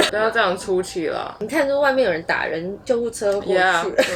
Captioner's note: ambulance sirens in the distance